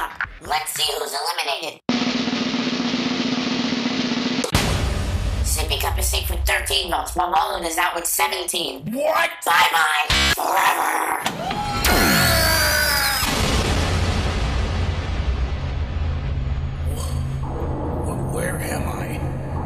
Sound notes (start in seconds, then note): 1.9 drumroll; 10.0 glitches